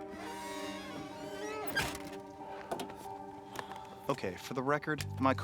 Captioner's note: door squeaks